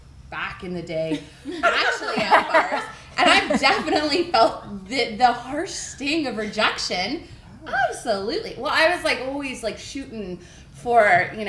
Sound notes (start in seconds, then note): 1.4 laughing